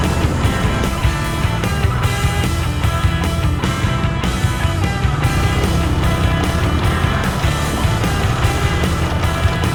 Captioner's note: engine revving